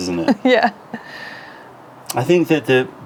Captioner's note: laughter